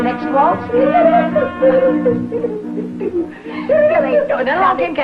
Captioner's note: Billy humming